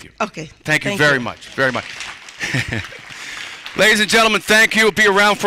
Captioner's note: laughter